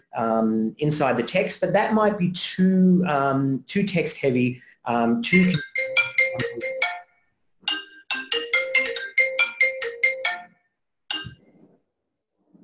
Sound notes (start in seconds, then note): 5.3 phone rings in background